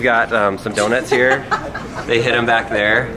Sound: laughs

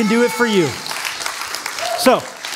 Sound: applause

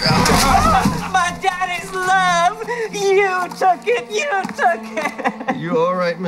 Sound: sobs

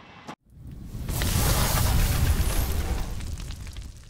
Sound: fire cracks

